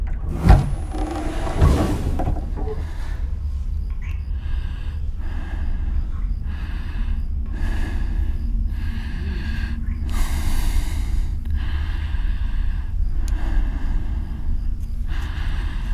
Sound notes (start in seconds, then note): 2.8 kissing; 9.7 breathing heavily